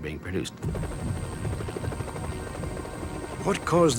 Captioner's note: rotating chopper blades